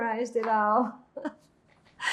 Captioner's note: laughing